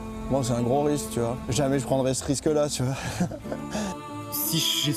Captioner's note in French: il rit